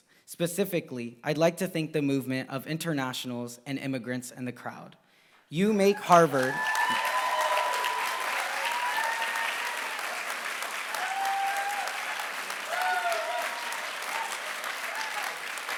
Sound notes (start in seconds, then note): 6.9 applause